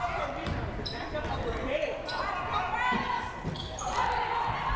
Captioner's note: crowd murmuring